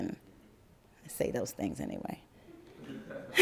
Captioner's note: laugther